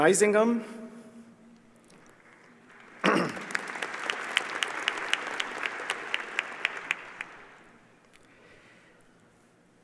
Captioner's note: applause